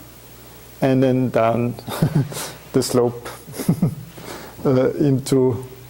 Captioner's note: chuckling